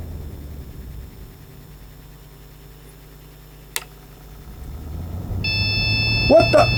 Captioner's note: beeping